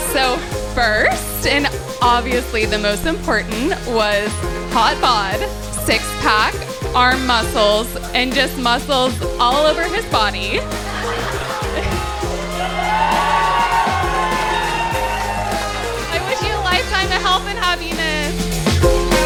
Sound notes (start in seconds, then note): 10.1 laughter and cheers